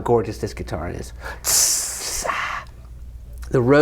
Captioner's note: tss